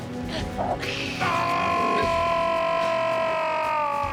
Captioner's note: crying out